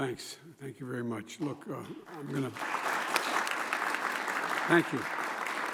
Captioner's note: applause